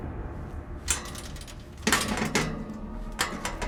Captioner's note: metallic rattling